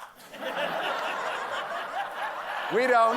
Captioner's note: laughter